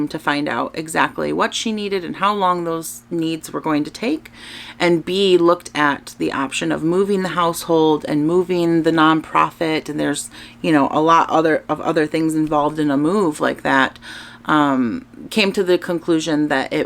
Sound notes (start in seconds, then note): none